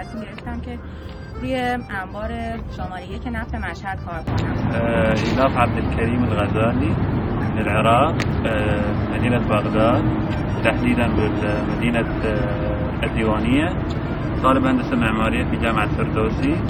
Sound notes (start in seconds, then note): 5.9 speaking Arabic